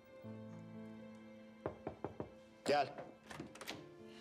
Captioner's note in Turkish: Kapı tıklanma sesi